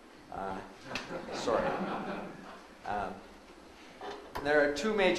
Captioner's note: audience laughs